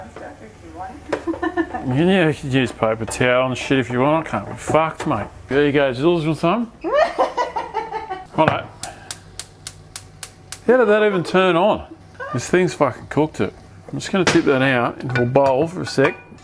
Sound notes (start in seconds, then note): 6.6 laughs; 6.9 laughing; 8.8 stovetop clicking